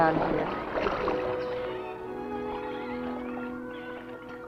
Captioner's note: water splashing; soft music continues